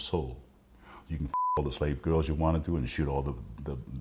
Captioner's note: beep